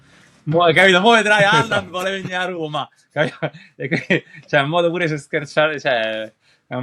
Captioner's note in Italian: risate